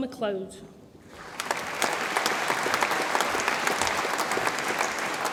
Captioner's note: audience applauds